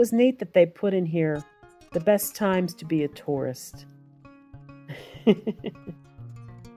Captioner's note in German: Lacht